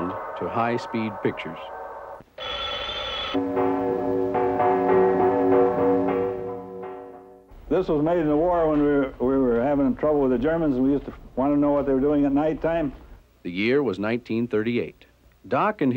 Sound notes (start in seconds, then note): 2.3 phone ringing; 4.9 bells ringing